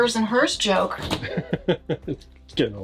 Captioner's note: laughs